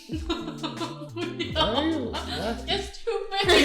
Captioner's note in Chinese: 崩潰笑